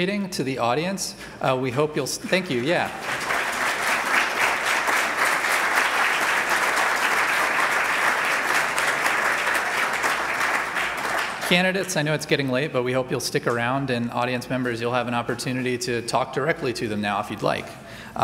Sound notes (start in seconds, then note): 3.1 applause